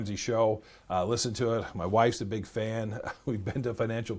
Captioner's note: laughs